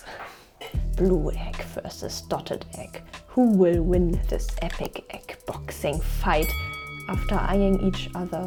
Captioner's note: boxing bell